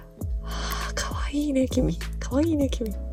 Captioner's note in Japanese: 呼吸